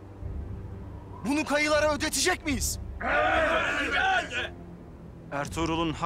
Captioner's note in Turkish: Hep bir ağızdan